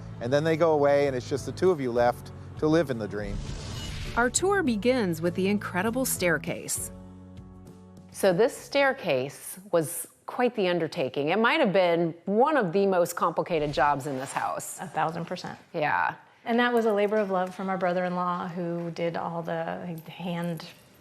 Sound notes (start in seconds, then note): 3.2 swooshing